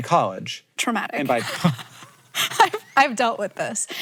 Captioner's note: laughs